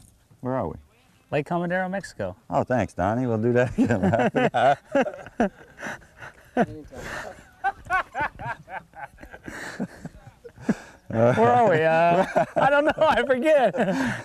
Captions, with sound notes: where are we? Lake Comdero Mexico Oh Thanks Donny we will do that again. [laughter] Where are we... don't know I forget